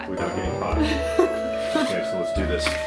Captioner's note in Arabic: يضحك